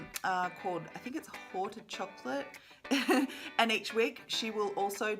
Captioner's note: laughs